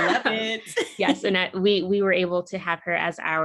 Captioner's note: laughs